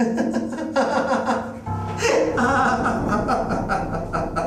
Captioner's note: man laughs